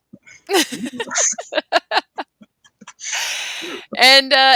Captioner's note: both laughing